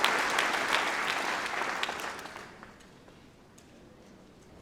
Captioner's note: applause